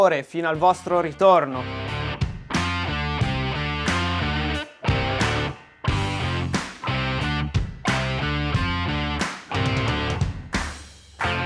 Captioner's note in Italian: Applauso